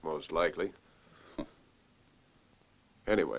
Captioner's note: chuckles; chuckles